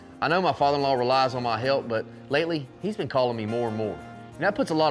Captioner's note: none